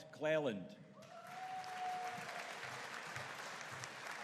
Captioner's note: audience cheering